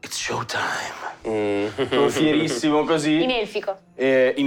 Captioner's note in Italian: Risate